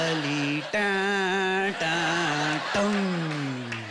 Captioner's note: humming